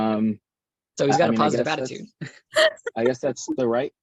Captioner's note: laughs